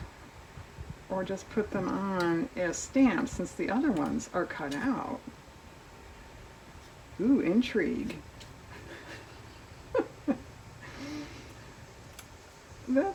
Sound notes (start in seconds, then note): 8.6 laughs